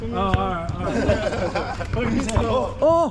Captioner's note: laughter